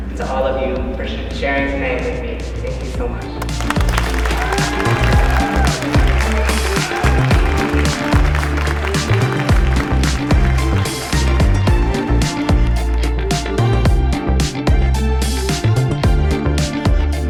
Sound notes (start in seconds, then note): 3.4 audience applauding and cheering; 6.6 bright music continues; 13.7 bright music continues